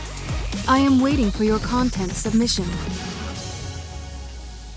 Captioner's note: voiceover